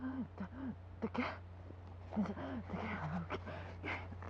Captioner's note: gasping; gasping